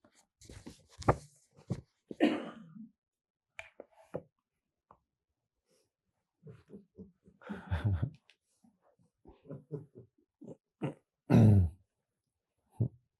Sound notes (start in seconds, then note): 7.4 Eckhart chuckles